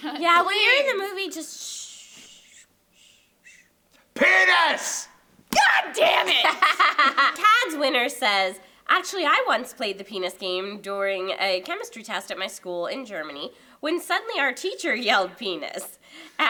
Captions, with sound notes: Yeah, when you're in the movie, just shh, shh. Penis! God damn it! [LAUGHS] KADZ Winner says, actually, I once played the penis game during a chemistry test at my school in Germany. When suddenly teacher yelled, penis.